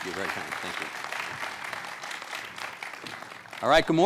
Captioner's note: audience applause